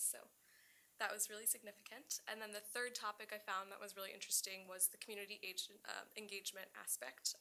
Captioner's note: none